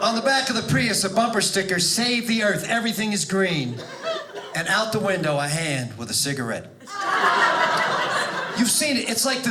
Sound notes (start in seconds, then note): 6.8 audience laughing